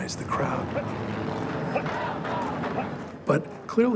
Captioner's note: chanting continues, officer directing march